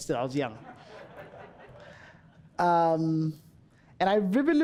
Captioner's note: audience laughing